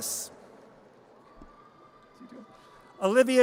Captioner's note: audience cheers